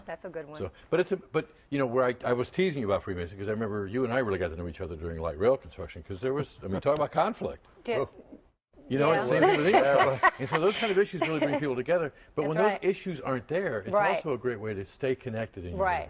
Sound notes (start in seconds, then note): 9.4 laughs